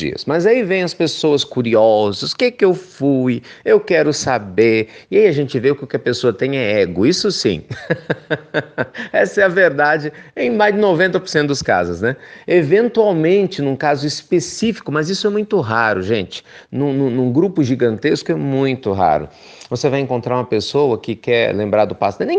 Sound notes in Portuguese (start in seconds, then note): 7.6 risos